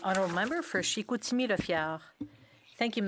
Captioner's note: speaking French